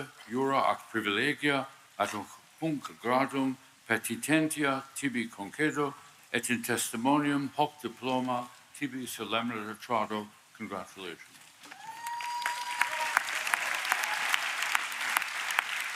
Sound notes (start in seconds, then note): 3.7 speaking Latin; 13.7 applause